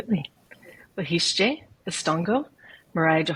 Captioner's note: speaking in Muscogee